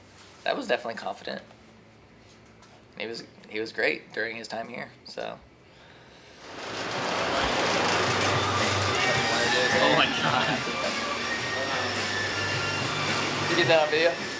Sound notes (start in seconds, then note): 6.3 fan rattles